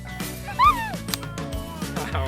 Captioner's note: laughs